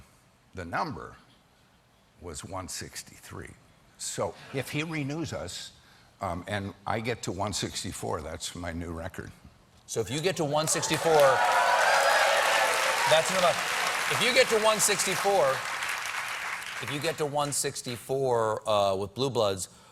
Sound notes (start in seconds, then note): 3.3 cheers and applause